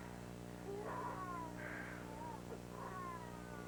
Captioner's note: Marah starts crying from another room